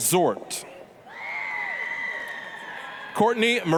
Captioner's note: applause, cheering